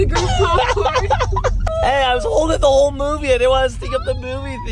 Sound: laughs

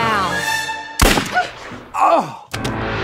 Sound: gun firing; groaning

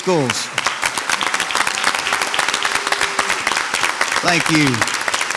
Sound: audience applauds

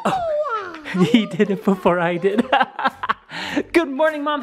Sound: laughs

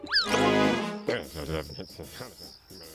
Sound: grumbling

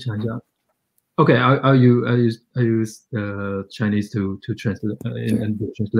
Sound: speaks mandarin

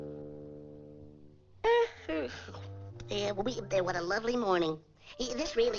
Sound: yawns

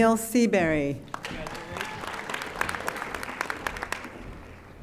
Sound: audience applauding

